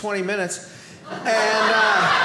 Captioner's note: audience laughing